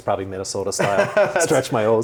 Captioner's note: laughs